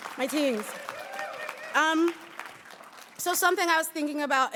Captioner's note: audience applauding and cheering